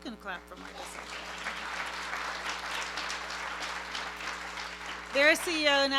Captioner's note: applause